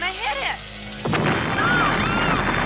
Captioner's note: explosion booming